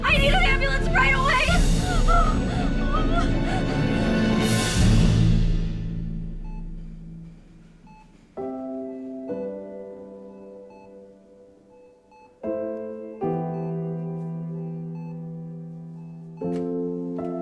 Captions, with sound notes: I need ambulance right away! [EKG heart monitor beeps] [sad music]